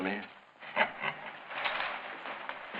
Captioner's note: chuckles